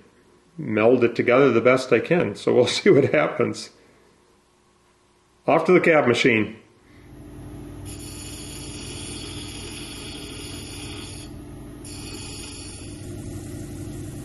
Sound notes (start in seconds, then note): 8.1 wheel grinding